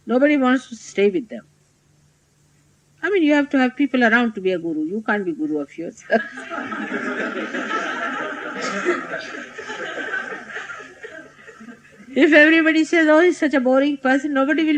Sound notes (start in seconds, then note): 9.1 laughter